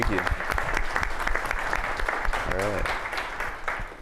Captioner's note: applause